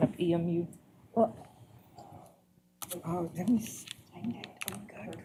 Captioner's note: indistinct chatter